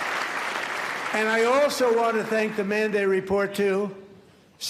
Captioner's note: applause